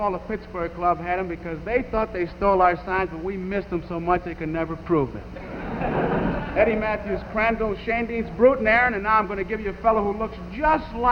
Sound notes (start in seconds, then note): 5.3 audience laughing